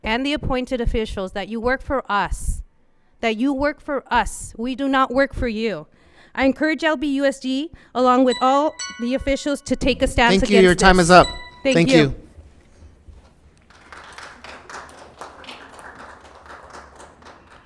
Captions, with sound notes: and the appointed officials, that you work for us. That you work for us. We do not work for you. I encourage LBUSD, along with all the officials (timer chimes) to take stance against this. - Thank you, your time is up. Thank you. - Thank you. (applause)